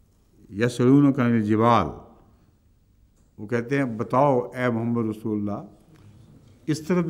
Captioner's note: Arabic